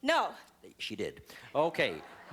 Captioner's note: laughter